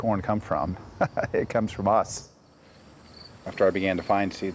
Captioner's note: laughs